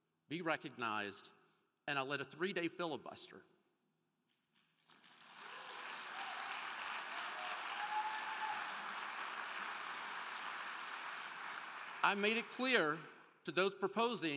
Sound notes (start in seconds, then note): 4.8 crowd clapping; 5.1 crowd cheering